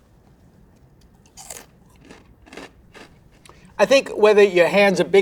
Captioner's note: food crunching